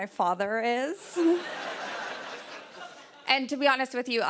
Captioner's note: laughter